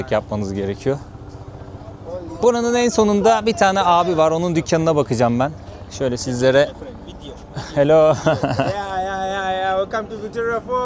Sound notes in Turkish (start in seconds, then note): 7.5 kahkaha